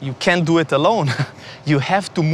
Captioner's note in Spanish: se ríe